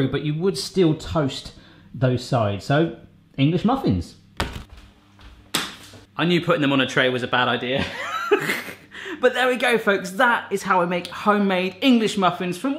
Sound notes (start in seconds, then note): 5.6 clattering; 7.9 laughing